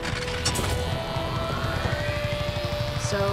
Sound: mechanical whirring

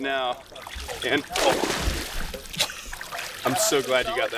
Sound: water splashing

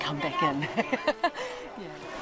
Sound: laughs

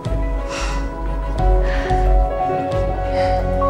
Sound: laughs

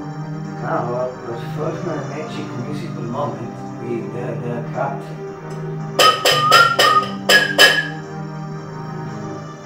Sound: whistle

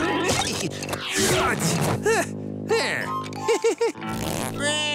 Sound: chuckles

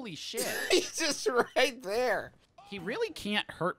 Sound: laughing

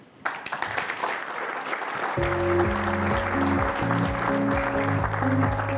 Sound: applause

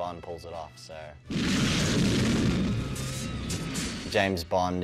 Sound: snowmobile exploding

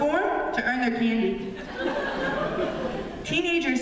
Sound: laughter

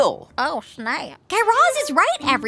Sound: none

